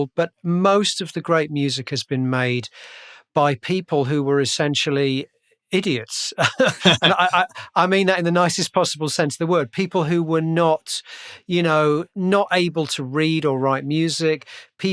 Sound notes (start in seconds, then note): 6.4 laughter